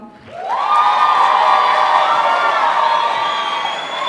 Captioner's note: applause